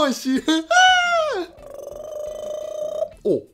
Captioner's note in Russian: инопланентные звуки